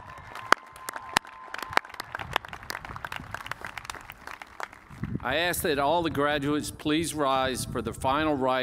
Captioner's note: cheers and applause